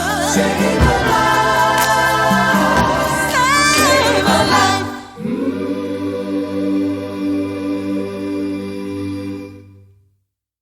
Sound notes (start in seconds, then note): 5.1 humming